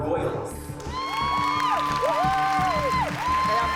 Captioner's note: audience cheering, applauding